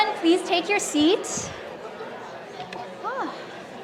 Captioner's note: audience talking off microphone